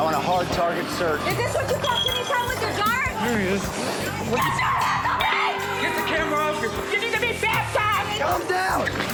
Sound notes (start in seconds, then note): 4.4 screaming